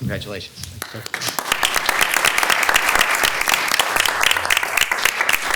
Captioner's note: attendees applauding